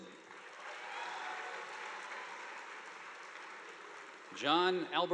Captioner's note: audience applauding